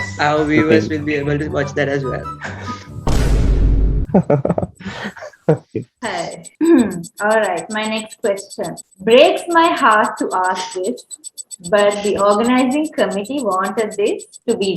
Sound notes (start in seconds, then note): 4.1 laughs; 6.8 clears throat